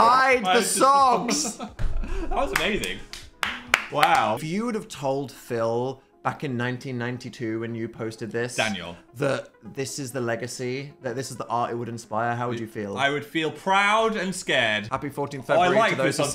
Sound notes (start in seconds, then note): 1.2 Phil laughs; 2.4 Dan claps; 2.5 claps